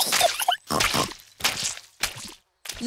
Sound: giggles and snorts

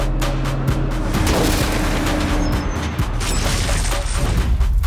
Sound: bus hitting sign; crashing to ground

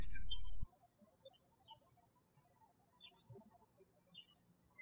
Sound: birds chirping

